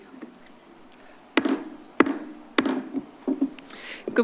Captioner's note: silence; pounding